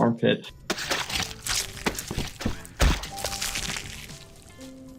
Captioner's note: blood gushing